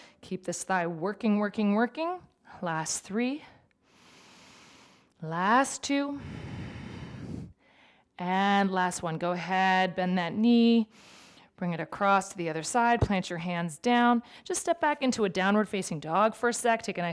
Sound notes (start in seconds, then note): 3.9 inhales deeply; 6.2 exhales deeply